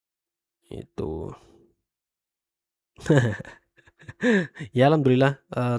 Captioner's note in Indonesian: tertawa